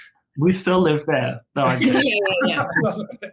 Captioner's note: giggles